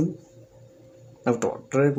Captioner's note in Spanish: Silencio